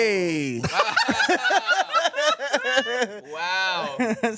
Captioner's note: everyone laughs